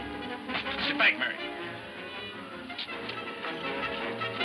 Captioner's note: guns firing